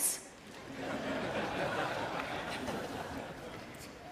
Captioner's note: laughter